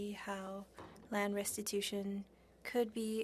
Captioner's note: speaking French